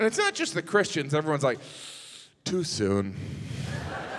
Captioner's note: hisses; audience laughs